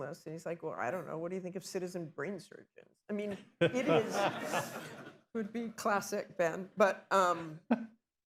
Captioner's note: laughter